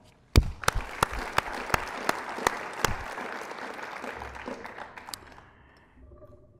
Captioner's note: applause